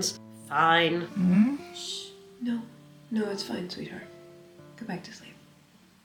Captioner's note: sleepy noise